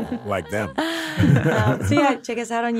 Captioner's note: all chuckling